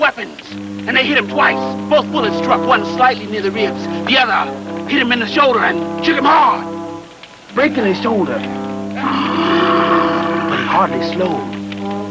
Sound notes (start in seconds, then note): 9.0 Cruzatte growling ferociously